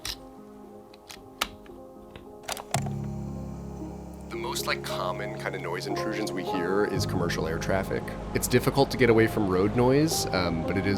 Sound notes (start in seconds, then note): 0.2 cassette clicks; 0.2 gentle music; 2.4 start button clicks